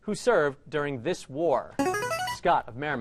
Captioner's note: ringer